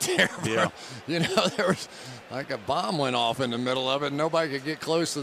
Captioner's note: chuckles